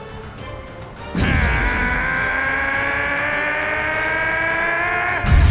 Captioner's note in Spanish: Grita